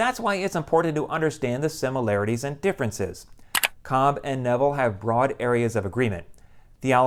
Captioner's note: mouse click